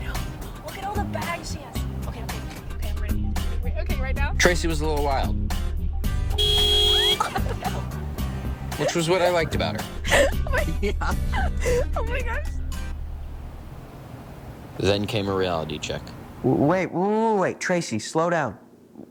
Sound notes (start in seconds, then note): 6.3 car beeps; 6.9 Tracy laughing; 7.3 woman yells; 11.4 traffic buzzing; 12.8 birds chirping